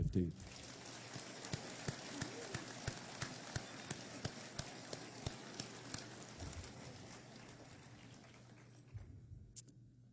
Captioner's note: applause